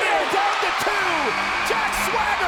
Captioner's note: buzzer buzzing